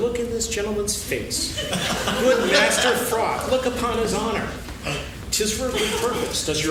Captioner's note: laughing